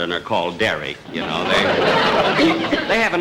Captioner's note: audience Laughing